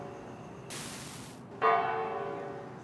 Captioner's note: bells ringing